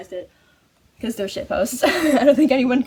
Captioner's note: laughs